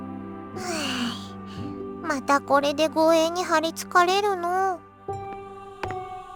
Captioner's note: sigh